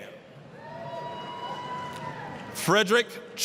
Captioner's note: applause, cheering